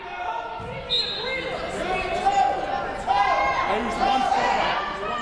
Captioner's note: whistle blows